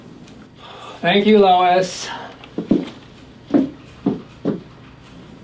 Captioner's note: sighs